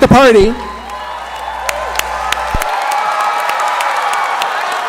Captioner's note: applause